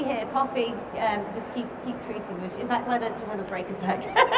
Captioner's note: laughs